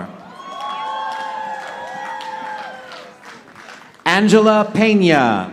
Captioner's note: audience applauding